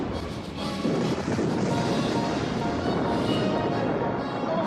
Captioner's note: cannons booming